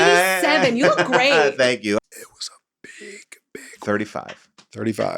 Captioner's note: laughs